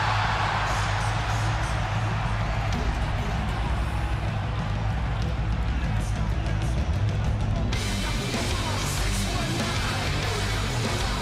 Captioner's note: crowd cheers